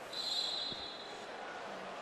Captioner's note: whistle blows